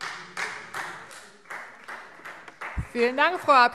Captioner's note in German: Beifall Freie Demokraten